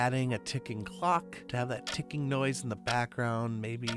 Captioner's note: ticking Noise Playing